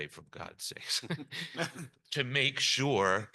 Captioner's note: panelists chuckle